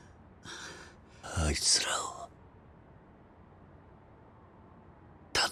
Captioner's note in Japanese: ため息